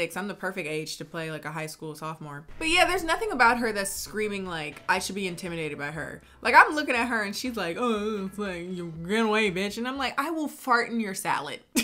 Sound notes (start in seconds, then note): 7.7 mumbles